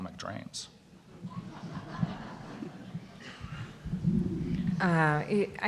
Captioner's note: audience laughing